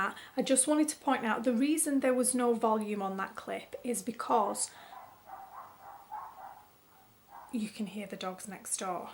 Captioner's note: dogs yapping in background